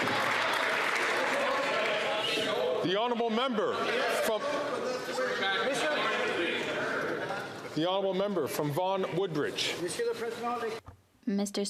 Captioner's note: some Applause